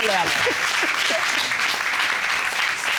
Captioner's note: applause